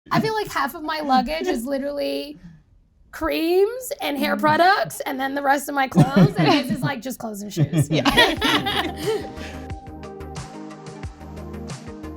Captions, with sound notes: - I feel like half of my luggage is literally creams and hair products and then the rest of my clothes, and his is like, just clothes and shoes. (people laughing) (upbeat music)